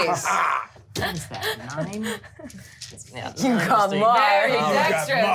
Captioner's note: overlapping chatter